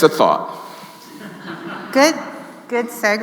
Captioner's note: audience laughing